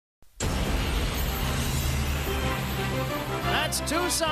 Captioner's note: plane engine roaring